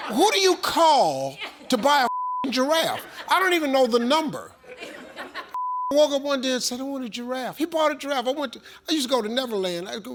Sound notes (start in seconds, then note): 2.0 beep; 4.3 audience laughs; 5.5 beep